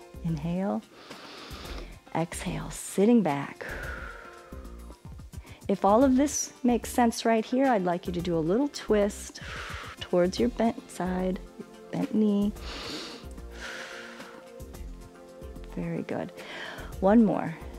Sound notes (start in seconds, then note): 0.9 inhales; 3.6 exhales; 12.6 inhales and exhales